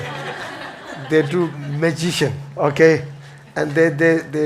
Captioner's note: audience laughs